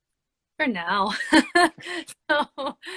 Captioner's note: laughs